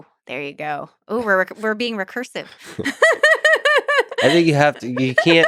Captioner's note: laughs